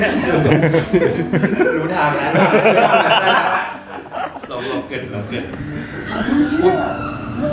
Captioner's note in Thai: เสียงหัวเราะ